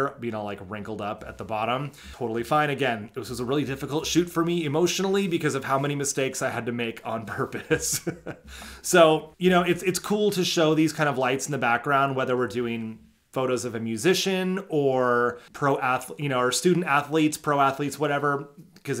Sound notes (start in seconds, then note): 7.3 laughing